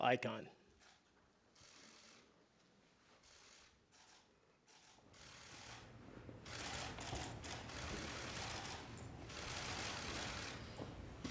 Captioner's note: applause